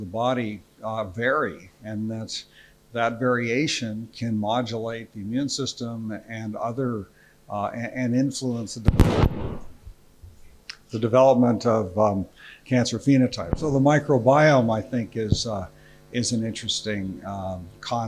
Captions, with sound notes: of the body vary and that variation can modulate the immune system and influence (microphone banging) the development of cancer phenotypes. So the microbiome is I think is an interesting concept.